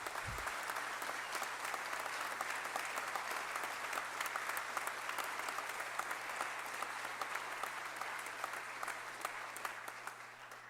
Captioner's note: applause